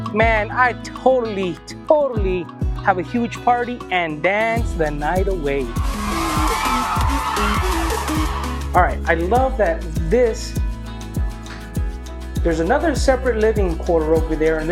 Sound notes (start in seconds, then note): 0.0 mellow music; 5.6 energetic dance music; 5.6 crowd cheering